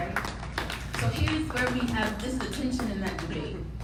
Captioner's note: people applauding